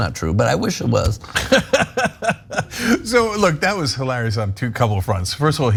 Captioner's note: laugh